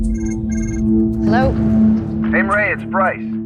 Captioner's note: phone ringing; on phone